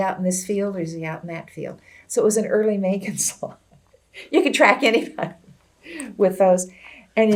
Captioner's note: laughs